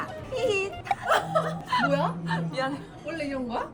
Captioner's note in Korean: 시꾸들 웅성거리는 소리 들린다